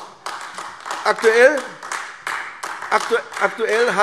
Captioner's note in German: Beifall AfD